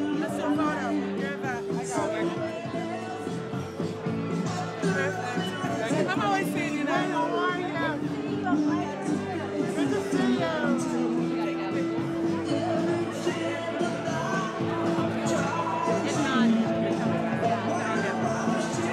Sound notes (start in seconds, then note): 0.0 lively chatter; 11.8 lively chatter